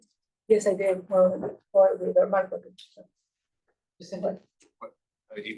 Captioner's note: faintly speaking